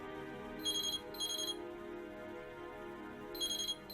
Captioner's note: phone ringing